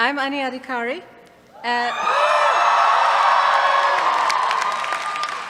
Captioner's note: cheers